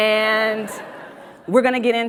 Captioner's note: audience laughs